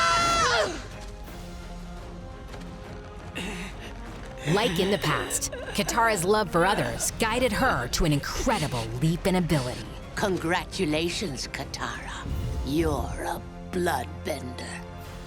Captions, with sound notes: [sighing] Like in the past, Katara’s love for others guided her to an incredible leap in ability. Congratulations Katara, you’re a Bloodbender.